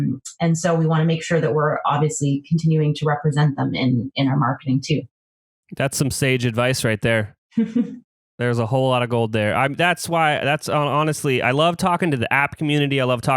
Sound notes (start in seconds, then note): 7.9 laughs